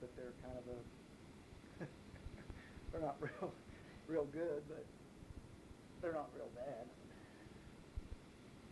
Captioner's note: chuckles